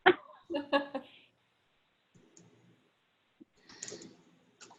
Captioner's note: laughs